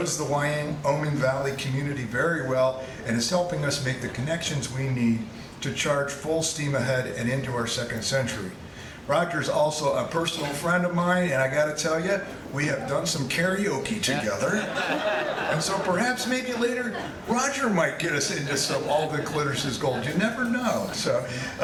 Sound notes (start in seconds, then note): 14.6 audience laughing